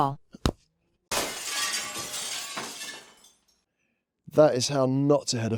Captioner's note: sound of a window smashing